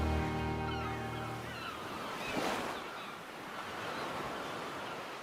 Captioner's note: waves crashing